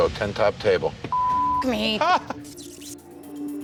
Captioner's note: beep; worker laughs; suspenseful music